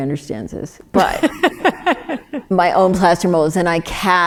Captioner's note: laughs